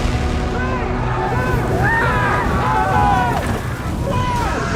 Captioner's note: men screaming